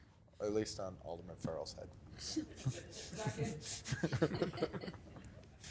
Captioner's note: laughing